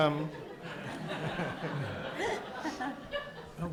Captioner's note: audience laughs